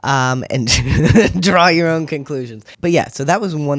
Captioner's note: laugh